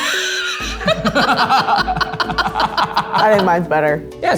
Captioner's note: everyone laughs